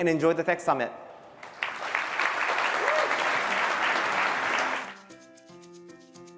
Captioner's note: applause